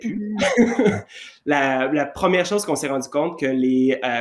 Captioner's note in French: rires